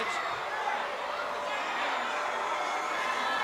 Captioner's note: crowd cheering